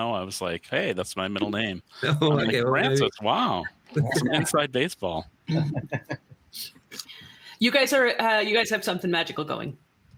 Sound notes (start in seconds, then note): 5.5 chuckling